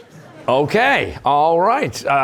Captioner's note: laughter